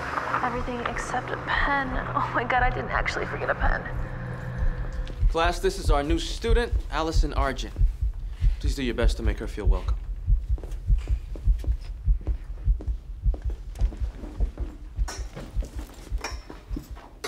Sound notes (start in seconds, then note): 10.9 footsteps clunking